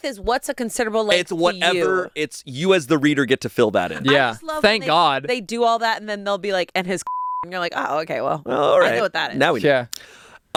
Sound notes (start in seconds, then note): 7.0 beep